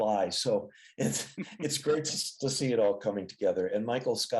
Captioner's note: laughs